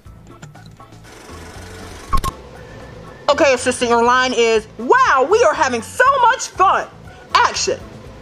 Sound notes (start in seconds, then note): 1.0 film running; 1.0 beeping